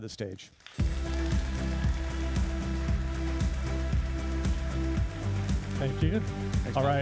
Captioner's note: applauding and cheering; upbeat music